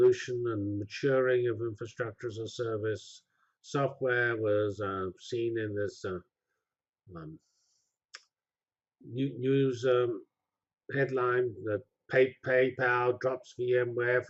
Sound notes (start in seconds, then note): 6.6 pause